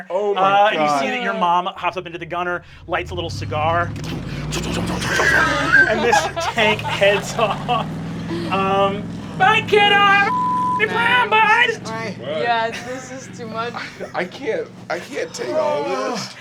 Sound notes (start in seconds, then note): 4.2 engine rumbling; 4.2 whooshing; 5.4 everyone laughing; 10.2 beep